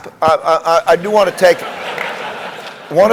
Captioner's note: laugh